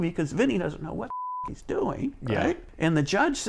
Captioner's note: beep